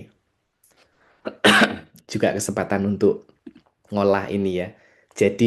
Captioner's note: berdehem; batuk